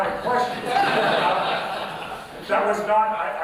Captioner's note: laughter